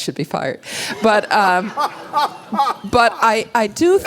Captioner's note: laughter